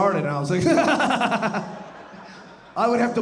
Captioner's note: laughing